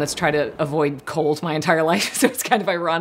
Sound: laughs

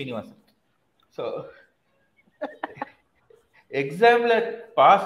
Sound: laughs

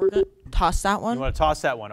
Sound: beep sounds

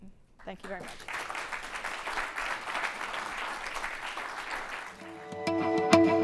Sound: applause

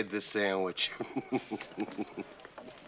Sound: chuckles

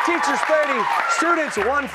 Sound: cheers

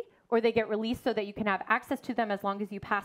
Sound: none

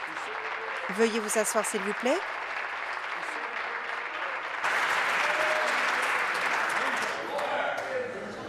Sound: applause

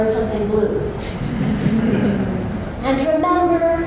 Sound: laughter

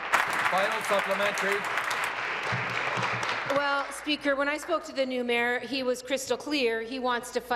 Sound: applause

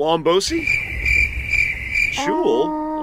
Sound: criket

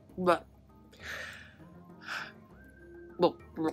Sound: sighs

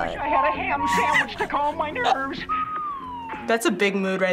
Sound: chuckles

